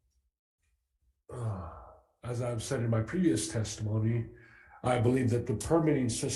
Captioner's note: sighs